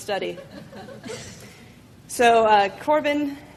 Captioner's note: laughing